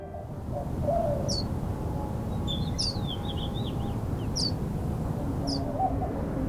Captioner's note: birds chirping